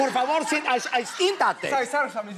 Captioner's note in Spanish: Habla al revés